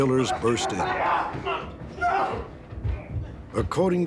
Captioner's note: yelling